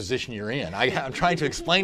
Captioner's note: laughter